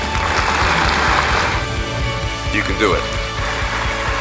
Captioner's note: clapping